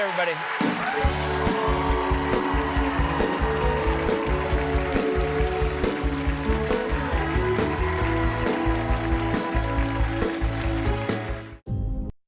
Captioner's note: cheers and applause